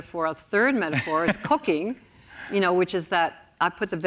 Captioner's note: laughs